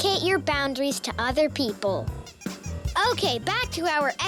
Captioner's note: squeaking